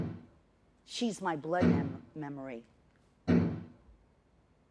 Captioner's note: none